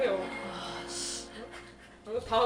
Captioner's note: sigh